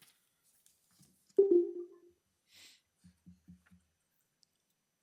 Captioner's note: computer chimes